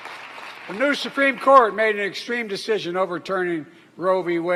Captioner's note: applause